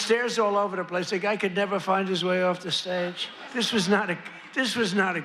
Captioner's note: laughter